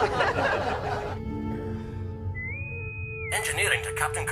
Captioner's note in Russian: свист интеркома